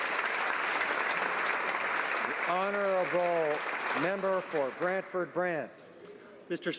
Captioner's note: applause